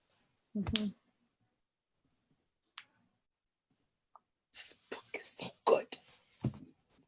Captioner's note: whispers, This book is so good